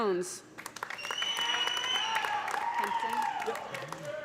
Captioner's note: cheers and applause